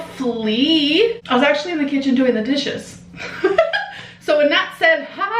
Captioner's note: laughs